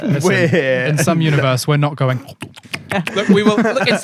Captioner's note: chewing sounds